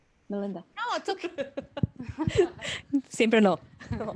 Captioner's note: laughter